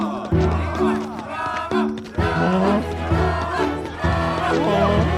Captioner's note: people cheering